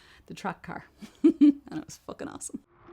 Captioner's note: laughs